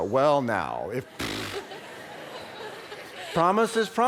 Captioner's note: laughter